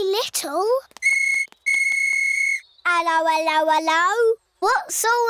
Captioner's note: blows whistle